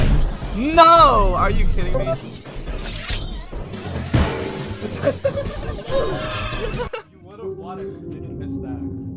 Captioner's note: laughing